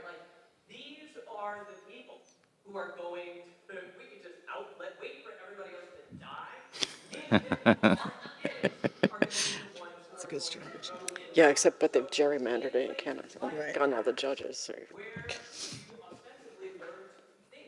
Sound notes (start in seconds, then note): 7.1 laughing